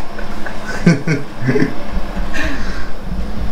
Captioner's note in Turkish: Gülüşmeler